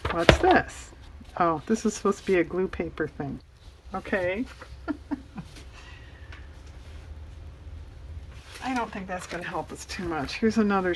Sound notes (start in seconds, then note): 4.6 laughs